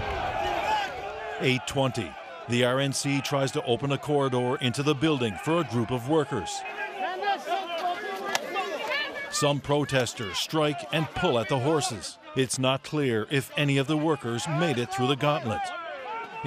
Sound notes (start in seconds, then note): 1.5 cheers